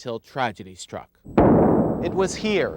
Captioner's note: gunfire echos